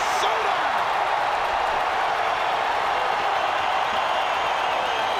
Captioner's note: crowd cheering